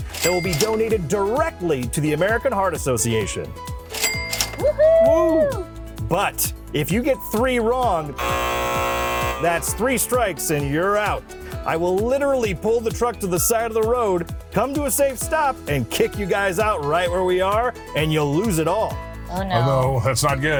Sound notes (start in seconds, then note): 4.6 cheering; 8.1 buzzer sounding